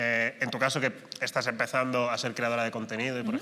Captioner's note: none